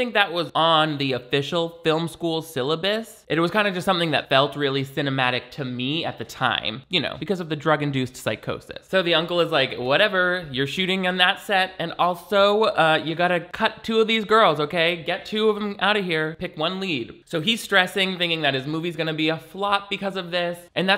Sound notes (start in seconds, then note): none